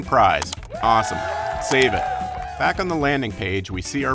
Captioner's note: audience cheering